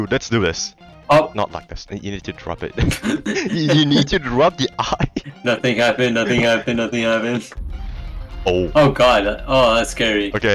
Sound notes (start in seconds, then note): 2.7 laugh